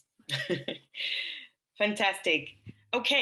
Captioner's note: laughs